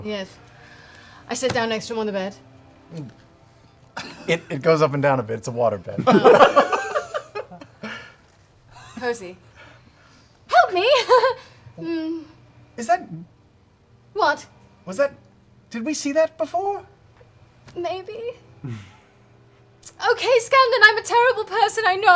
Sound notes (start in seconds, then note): 2.8 gulps